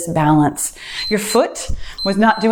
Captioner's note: timer beeps